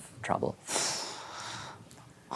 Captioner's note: exhales